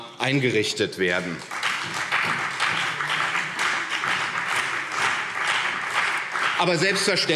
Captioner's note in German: Beifall CDU und BÜNDNIS 90/DIE GRÜNEN